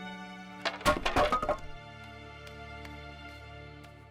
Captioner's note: wood clattering